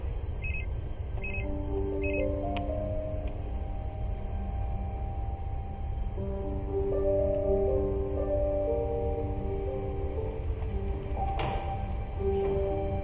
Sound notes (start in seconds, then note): 1.1 beeping; 1.9 beeping stops